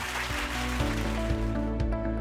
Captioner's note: audience clapping; upbeat music